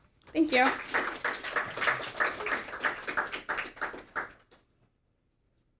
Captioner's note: audience applauding